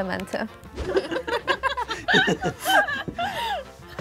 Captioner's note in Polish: śmiech